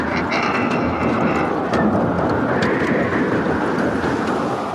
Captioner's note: donkey braying